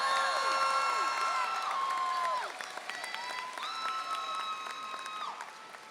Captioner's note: audience applauding